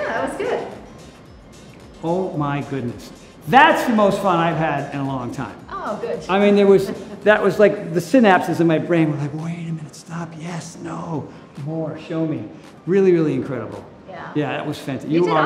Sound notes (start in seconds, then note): 6.4 Cynthia chuckles